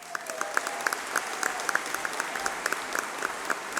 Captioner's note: applause